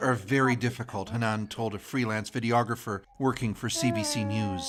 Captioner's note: speaking alternate language